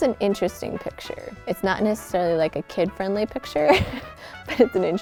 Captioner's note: laughs